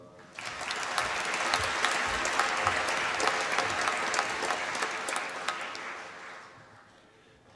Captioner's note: applause